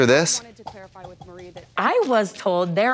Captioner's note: skin smashing